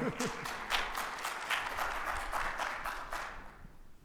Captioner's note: audience applauding